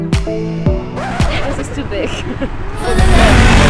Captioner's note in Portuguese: rsrsrs